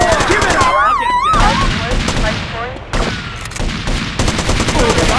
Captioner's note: gunshots